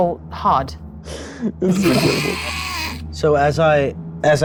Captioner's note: group laughs